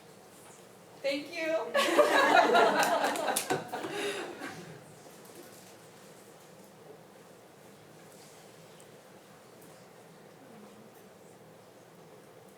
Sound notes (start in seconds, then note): 1.8 group laughing